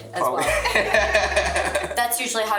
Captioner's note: group laughs